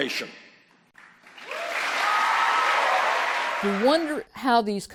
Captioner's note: applause